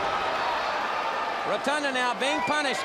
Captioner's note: crowd chatter